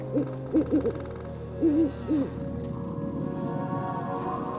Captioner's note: calm mystical music; owls hooting; wind howling